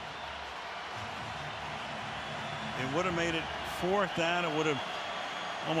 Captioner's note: cheers